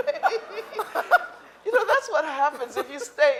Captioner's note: laughing